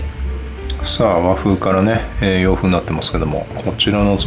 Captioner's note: laughs